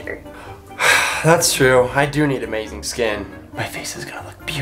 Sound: sigh

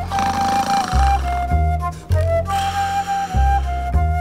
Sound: George snores

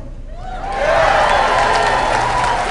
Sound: cheering

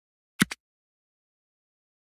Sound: click

